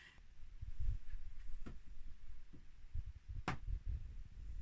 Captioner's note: rustling